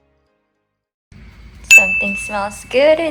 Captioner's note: ding